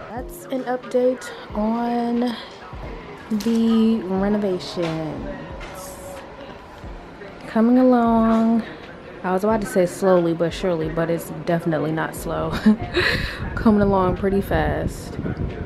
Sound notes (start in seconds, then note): 12.4 chuckles